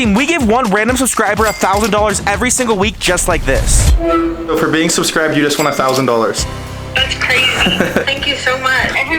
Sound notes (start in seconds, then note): 4.0 phone blips